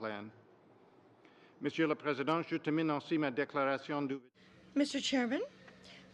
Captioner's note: speaking French